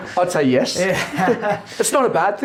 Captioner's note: laughs